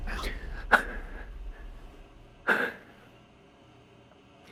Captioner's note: door opens; music intensifies; breathes heavily